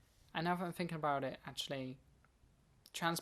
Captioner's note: none